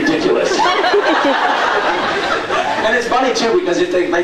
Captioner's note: laughs